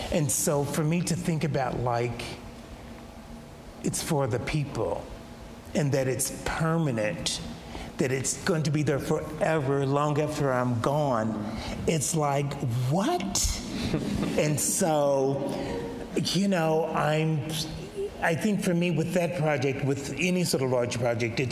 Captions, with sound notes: And so for me to think about like it's for the people and that it's permanent, that it's going to be there forever long after I'm gone. It's like what? (audience laughs) And so, you know, I'm, I think for me with that project, with any sort of large project,